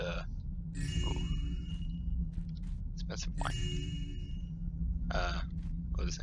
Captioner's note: joyous chimes